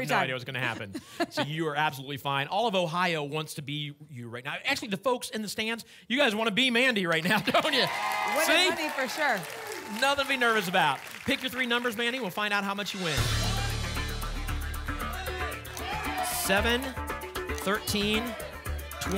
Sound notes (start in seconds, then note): 15.0 audience shouting numbers